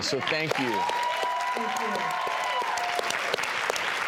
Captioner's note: audience applauds